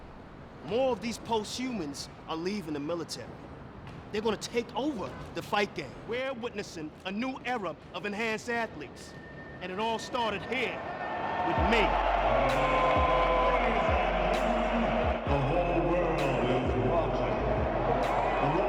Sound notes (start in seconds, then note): 12.4 crowd cheering